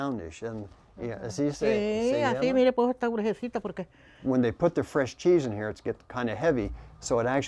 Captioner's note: spanish